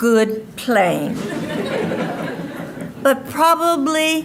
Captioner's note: audience laughing